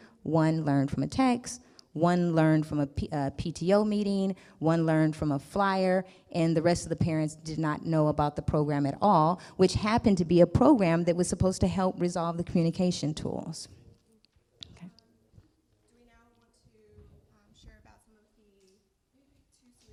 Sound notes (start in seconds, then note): 14.8 murmurs